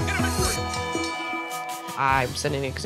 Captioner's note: bell dings